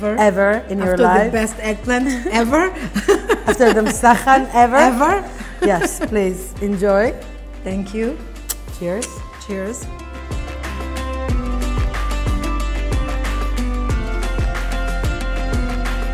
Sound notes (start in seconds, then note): 5.3 laughs; 11.4 upbeat Music Playing